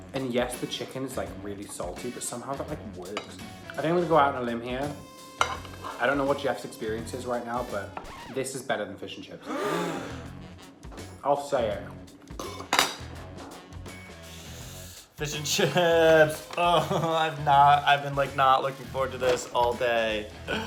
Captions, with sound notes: and yes, the chicken's like really salty, but somehow that like works. I think I'm gonna go out on a limb here. I don't know what Jeff's experience is right now, but this is better than fish and chips. (group gasping) I'll say it. - Fish and chips. I've been not looking forward to this all day.